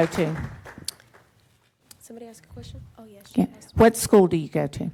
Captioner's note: applause